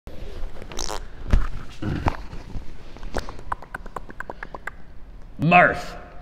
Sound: mouth sounds, microphone testing

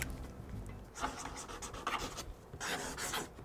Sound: pen scratches

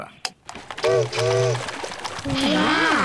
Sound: chimney toots

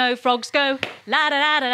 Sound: claps

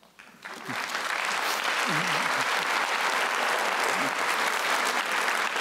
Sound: applause

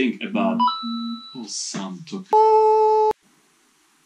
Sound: diiing; in Italian

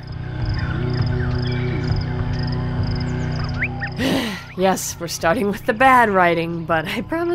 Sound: sigh

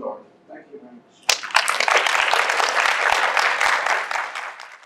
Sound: applause

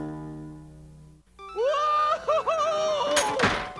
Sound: Tweeg shouts

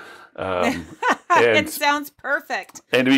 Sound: laughs

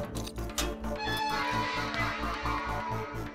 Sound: door opens

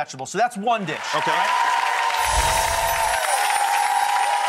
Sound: crowd cheering

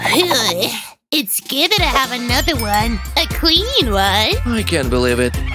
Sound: sounds of euphoria and joy

